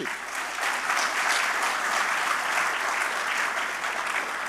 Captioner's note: audience applauding